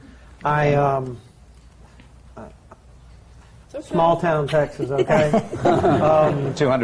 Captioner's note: laughter